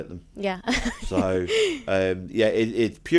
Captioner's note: laughing